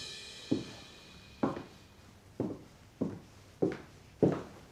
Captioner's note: footsteps